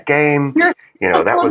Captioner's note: laugh